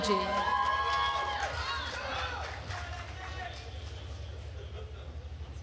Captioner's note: attendees cheering and applauding